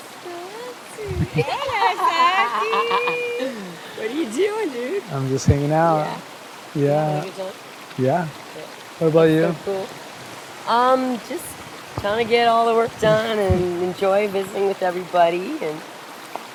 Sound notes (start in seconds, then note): 1.9 laughs